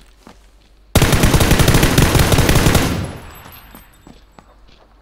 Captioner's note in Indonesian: Gunshots